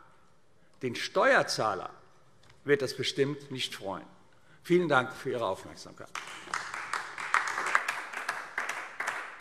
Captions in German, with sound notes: Den Steuerzahler wird das bestimmt nicht freuen. - Vielen Dank für Ihre Aufmerksamkeit. [Beifall AfD]